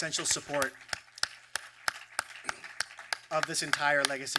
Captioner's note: applause